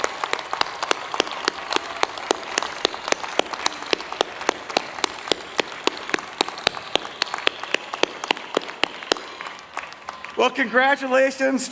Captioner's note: applause